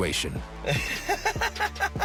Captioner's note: laughs